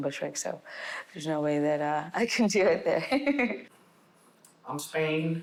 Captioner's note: laughing